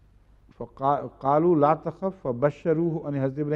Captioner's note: Arabic